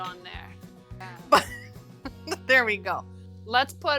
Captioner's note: chuckles